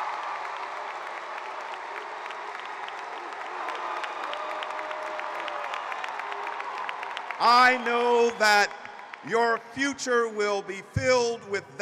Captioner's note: cheering and applause